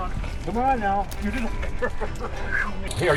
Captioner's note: laughing